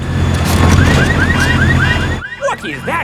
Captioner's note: car alarms blaring